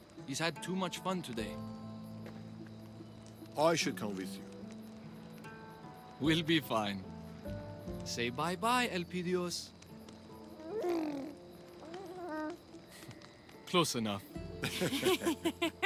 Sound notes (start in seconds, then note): 10.5 baby sounds; 14.6 laughing